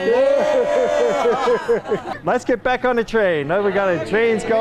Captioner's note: cheers